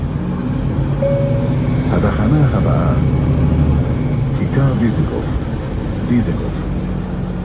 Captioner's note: ding